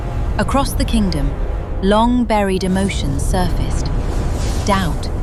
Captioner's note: thunder, flickering light